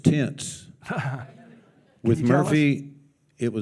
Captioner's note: chuckles